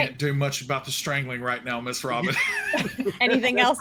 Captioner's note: laughs